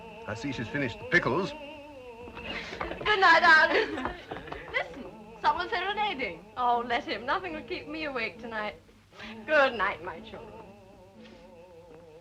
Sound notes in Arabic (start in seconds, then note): 2.4 نساء يضحكن; 11.2 غناء أوبرا